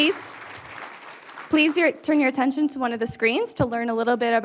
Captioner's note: applause